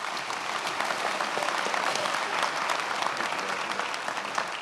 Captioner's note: attendees applauding